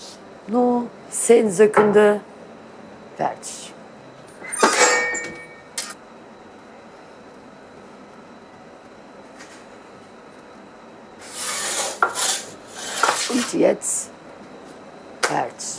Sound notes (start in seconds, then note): 4.4 clattering, squeaking